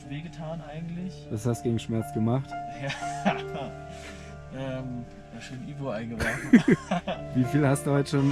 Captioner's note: laughs